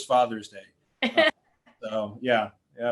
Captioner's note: laughing